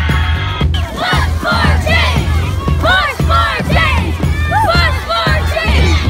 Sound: children shouting

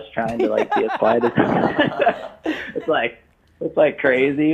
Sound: laughing

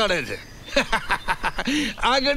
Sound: laughs

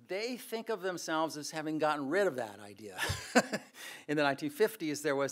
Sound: laughs

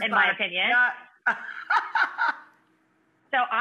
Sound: laughing

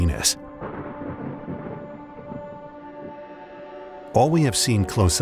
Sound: lightning clapping

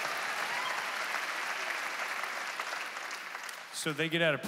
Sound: congregation applauding

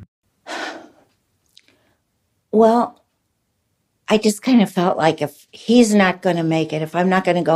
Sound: sighs

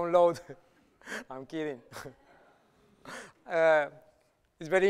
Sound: light laughter

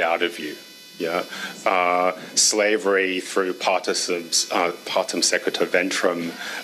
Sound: speaks foreign language

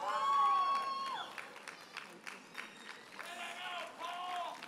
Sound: audience members holler and cheer

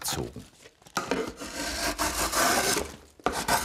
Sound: wooden scraping

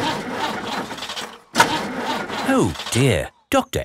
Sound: engine sputtering

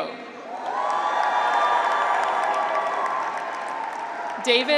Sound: graduates cheer; audience applauds

